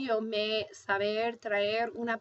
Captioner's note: speaking spanish